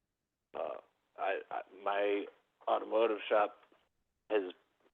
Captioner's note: by phone